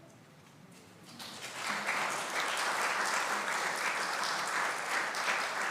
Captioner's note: audience applauding